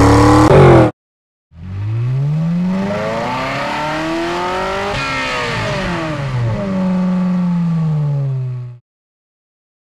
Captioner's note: the sound of a mazda RX8